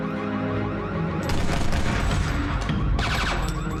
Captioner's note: gun firing